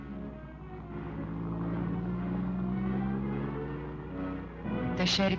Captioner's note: car engine revving